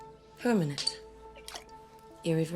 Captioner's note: spills